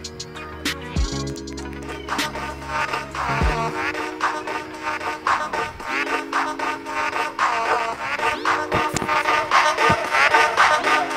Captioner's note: laughs